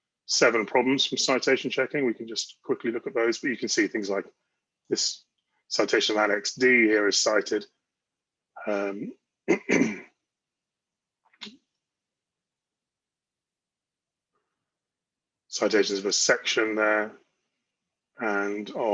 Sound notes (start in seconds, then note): 9.5 clears throat